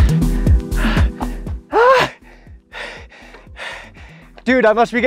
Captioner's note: sigh with heavy breathing